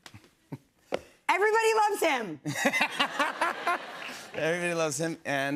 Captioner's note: laughter